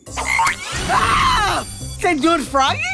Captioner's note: screaming